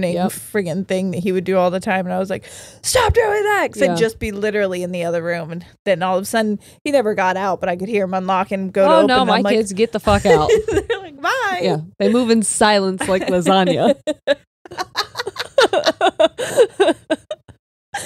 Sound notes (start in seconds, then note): 14.6 both laughing